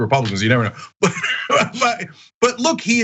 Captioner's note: laugh